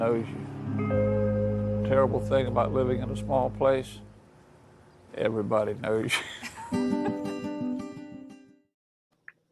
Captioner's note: laughter